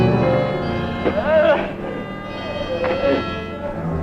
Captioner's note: Byron groaning